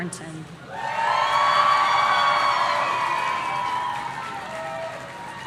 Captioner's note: audience cheering